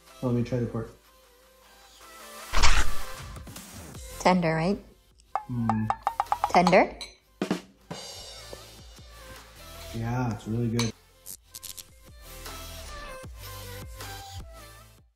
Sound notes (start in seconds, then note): 5.7 spoon clunks; 6.1 drum snares; 11.3 spoon clunks